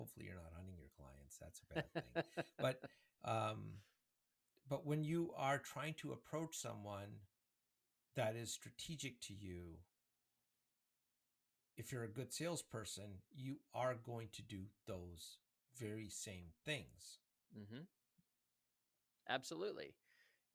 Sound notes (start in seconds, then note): 1.7 laughs